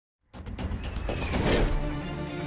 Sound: dramatic music; whoosh

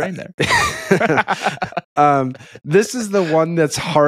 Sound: laughing

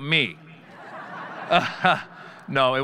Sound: audience laughing

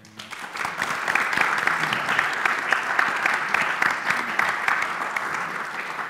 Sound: applause

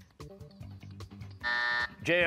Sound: buzzer

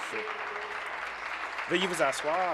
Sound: applause

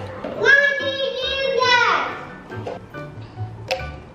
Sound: blabbers

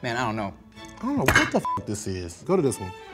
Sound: beep

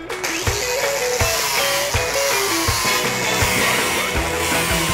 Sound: strip disc whirring

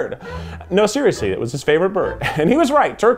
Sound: laughs

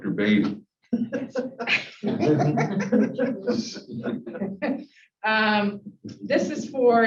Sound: emphasized pronunciation - laughter

